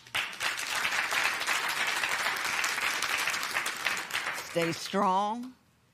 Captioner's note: applause